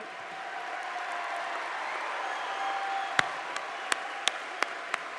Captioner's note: audience applauding